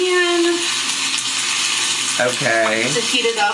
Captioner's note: food sizzling